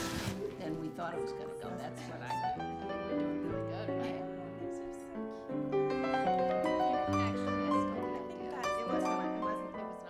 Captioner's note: chattering